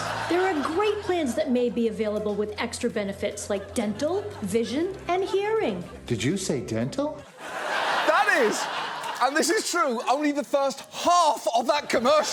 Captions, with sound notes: There are great plans that may be available with extra benefits like dental, vision, and hearing. Did you say dental? -(AUDIENCE LAUGHS) -That is, and this is true, only the first half of that commercial.